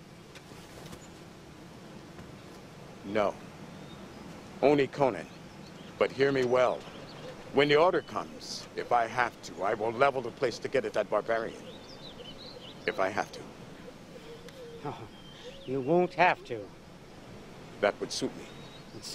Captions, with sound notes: (footsteps) - No. Only Conan. But hear me well. When the order comes, if I have to, I will level the place to get at that barbarian. If I have to. - No, you won't have to. - That would suit me.